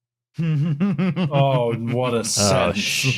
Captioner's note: laughs